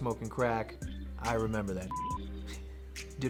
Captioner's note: beep